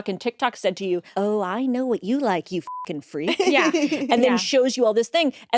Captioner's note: beep